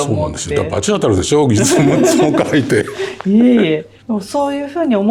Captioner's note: laughs